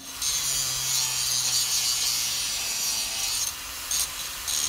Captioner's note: grinder whirring